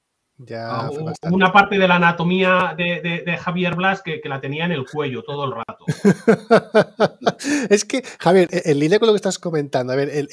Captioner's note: laughs